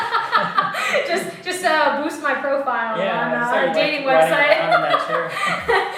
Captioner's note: laugh